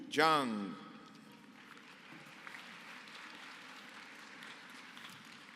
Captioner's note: applause